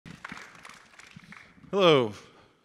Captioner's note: audience applauds